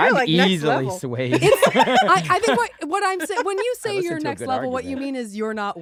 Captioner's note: laughs